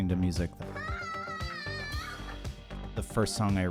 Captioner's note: shouting